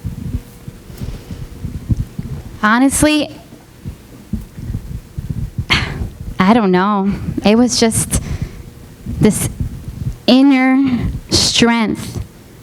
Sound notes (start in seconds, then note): 5.6 sighs